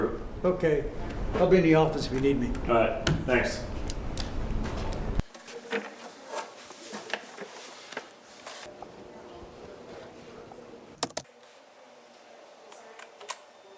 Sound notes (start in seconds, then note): none